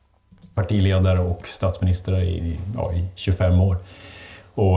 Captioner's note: Swedish